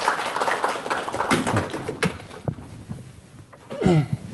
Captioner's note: audience applauding